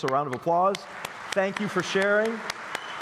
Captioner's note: applause